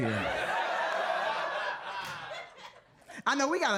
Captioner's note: audience laughing